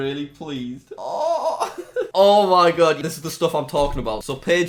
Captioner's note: laughs